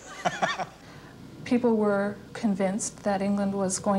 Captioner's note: chuckles